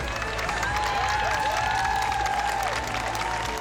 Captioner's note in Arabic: هتاف